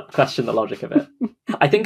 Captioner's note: laughs